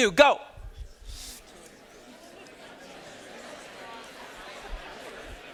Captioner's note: students chattering